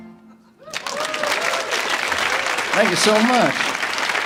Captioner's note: audience applauds